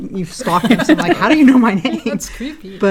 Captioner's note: laugh